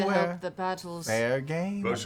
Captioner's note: none